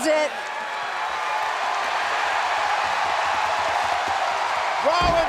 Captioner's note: applause